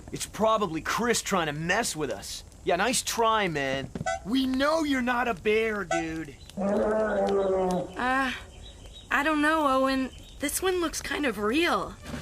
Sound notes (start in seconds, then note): 3.9 honks the nose; 6.6 bear Roaring